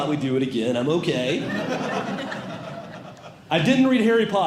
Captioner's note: audience Laughing